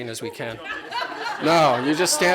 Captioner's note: laughter